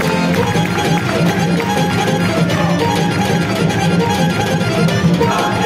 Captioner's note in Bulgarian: аплодисменти